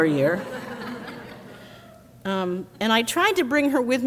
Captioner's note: crowd laughs